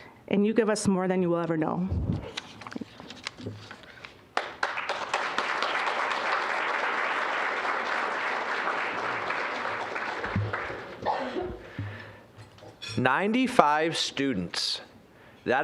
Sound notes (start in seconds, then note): 4.3 applause